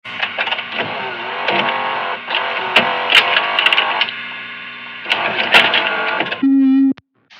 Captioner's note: VHS sounds; analog horror noise